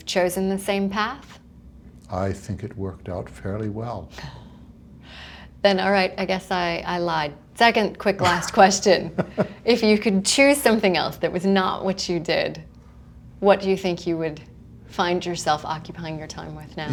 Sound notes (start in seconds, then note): 9.0 laughter